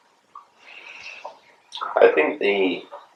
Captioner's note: none